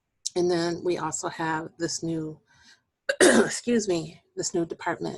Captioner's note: clearing voice